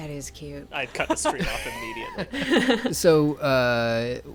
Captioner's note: laughing